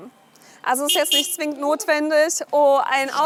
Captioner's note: honks